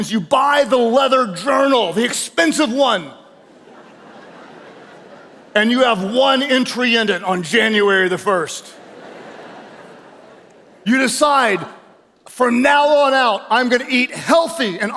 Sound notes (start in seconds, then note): 3.4 audience chuckles; 8.4 audience laughing